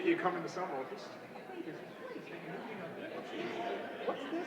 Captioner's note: indistinguishable chatter